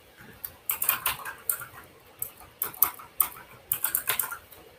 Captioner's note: keyboard clacks